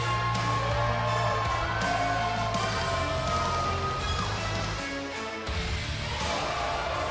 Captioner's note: cheers & applause